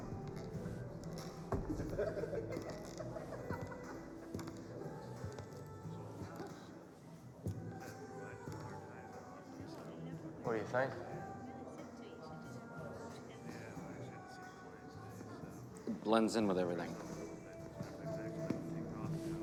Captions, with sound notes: (people laughing) - What do you think? - It blends in with everything?